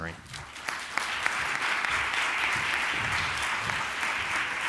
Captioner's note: applause